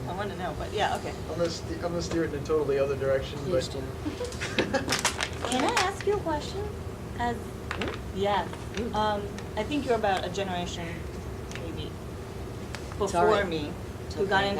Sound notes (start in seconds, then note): 4.0 laughing